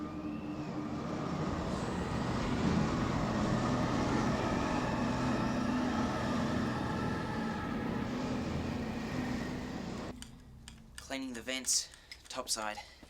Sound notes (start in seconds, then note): 1.8 wind howling